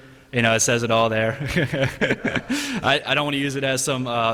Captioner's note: laughter